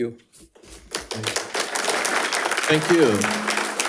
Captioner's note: audience applauding